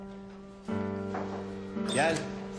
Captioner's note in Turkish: Kapı çalıyor